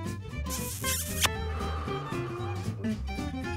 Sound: kissing sound

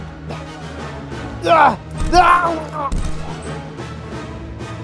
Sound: struggling Sounds

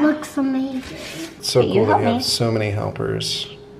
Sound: speaking in unison

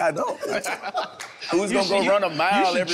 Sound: everyone laughing amusingly

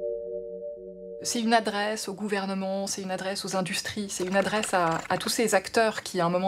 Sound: speaking in a foreign language

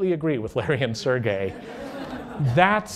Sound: laughter

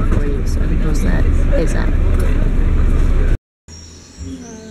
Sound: nature sounds

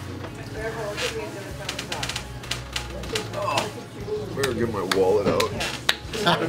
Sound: laughing

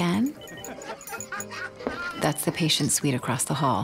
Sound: people laughing

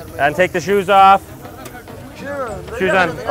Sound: speaking in foreign language

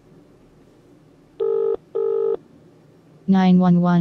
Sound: phone rings

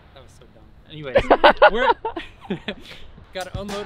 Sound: camera guy laughs

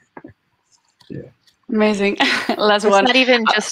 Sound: chuckling

